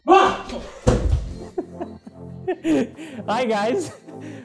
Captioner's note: boos